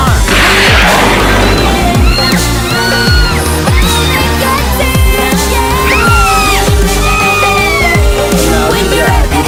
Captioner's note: Sweet Polly Screams